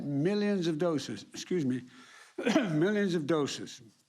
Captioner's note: coughs